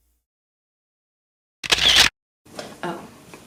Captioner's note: camera shutter sound effect